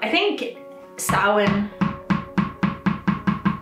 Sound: dog ball bouncing

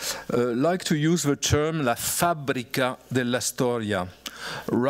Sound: italian

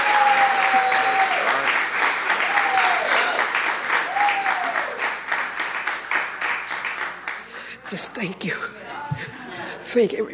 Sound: applause

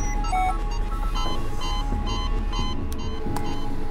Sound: heart monitor beeps aggressively

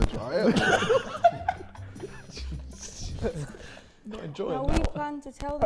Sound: Sidemen laughing

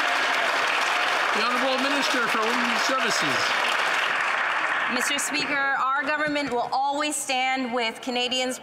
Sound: some Applause

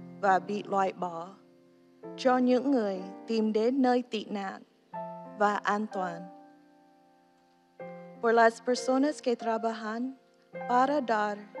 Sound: speaking non-english

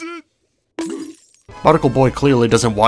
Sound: bonk sound effect #2

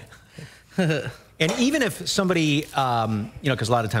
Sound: laughter

